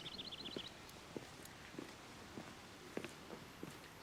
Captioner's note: birds chirping